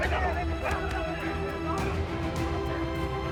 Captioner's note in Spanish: Golpes